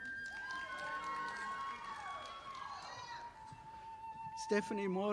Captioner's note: audience applauding